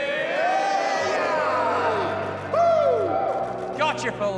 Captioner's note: cheering